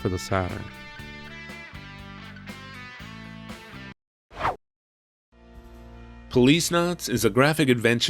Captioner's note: whoosh